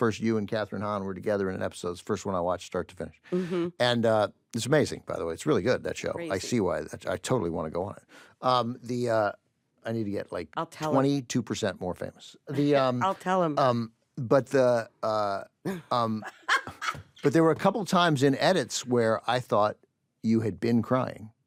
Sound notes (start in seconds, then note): 14.9 stammers; 15.8 laughs